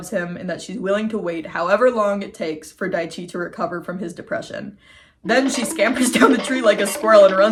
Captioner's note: cartoon running sound effect